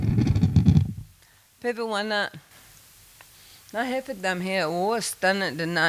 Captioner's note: speaking Native language